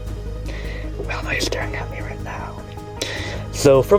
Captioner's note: whispering